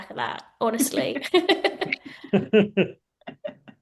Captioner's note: laughter